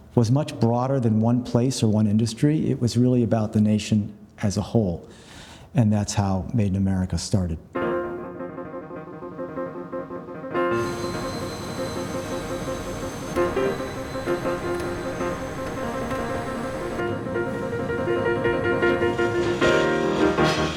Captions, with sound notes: was much broader than one place or one industry. It was really about the nation as a whole. And that's how "Made in America" started. (intense piano music) (machinery humming)